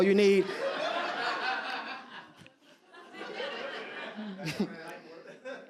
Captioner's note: audience laughs